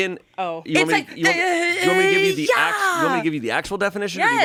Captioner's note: groans and yells